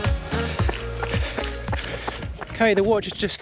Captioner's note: gravel crunches